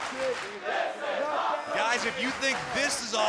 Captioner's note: fans chanting